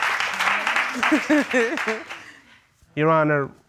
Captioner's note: chuckles